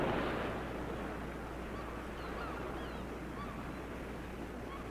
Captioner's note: birds squawking